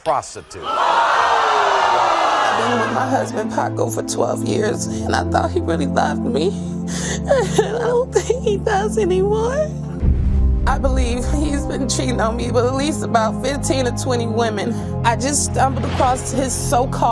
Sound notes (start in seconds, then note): 0.6 audience gasping